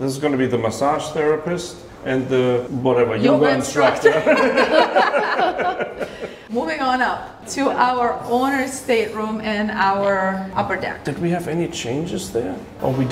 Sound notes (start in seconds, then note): 4.0 laughing